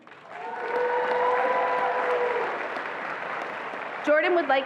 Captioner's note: attendees applauding and cheering